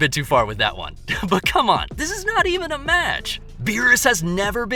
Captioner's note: laugh